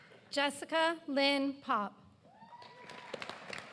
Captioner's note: applause